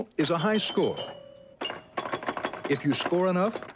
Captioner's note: old game dings